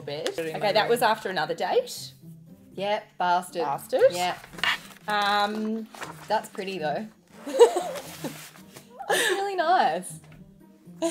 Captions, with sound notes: Okay, that was after another date. - Yep, bastard. That's pretty though. Really nice (laughing).